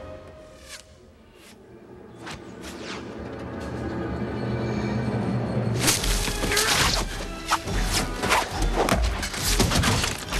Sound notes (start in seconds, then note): 0.1 distant whizzing; 6.2 yelling